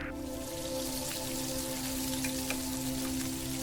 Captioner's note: bacon sizzling